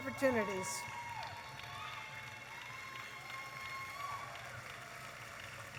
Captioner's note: audience applauding and cheering